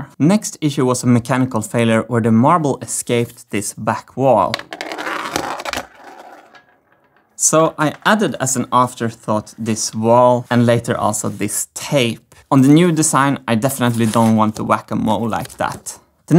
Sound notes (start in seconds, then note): 4.3 marble rolling